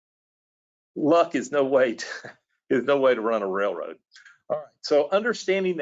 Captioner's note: laughs